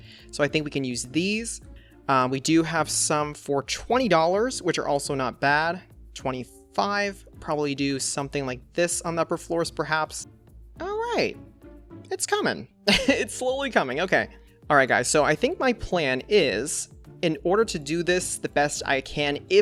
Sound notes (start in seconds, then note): 12.9 laughs